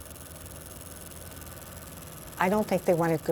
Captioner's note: film reel rolls